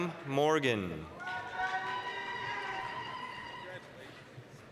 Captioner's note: applause, cheering